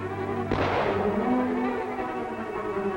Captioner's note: gunshot